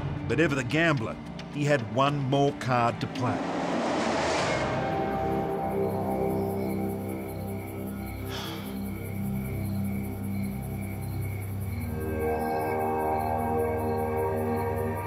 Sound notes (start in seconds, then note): 4.4 crickets chirping; 4.8 dark music